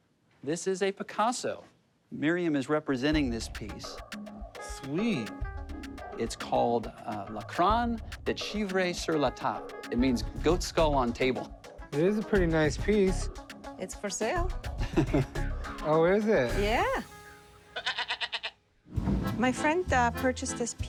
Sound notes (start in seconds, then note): 14.8 chuckles; 17.7 goat bleats